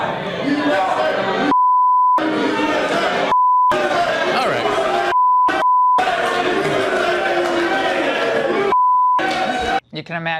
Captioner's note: audience members booing and yelling